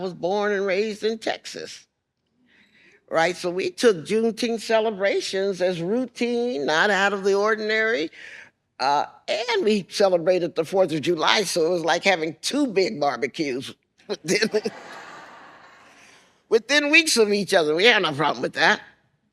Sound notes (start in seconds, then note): 14.4 laughs